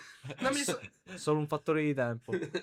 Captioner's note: laughter